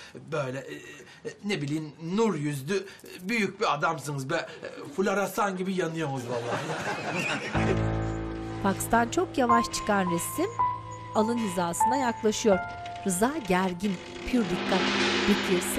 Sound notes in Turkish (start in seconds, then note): 6.2 Gülme sesleri; 10.5 Müzik - Gerilim